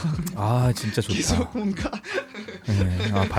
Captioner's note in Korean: 웃음